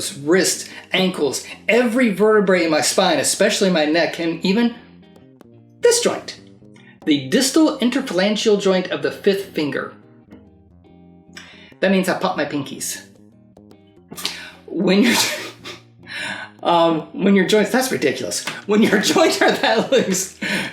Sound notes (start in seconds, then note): 15.1 laughing